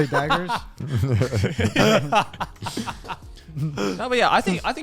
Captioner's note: laughs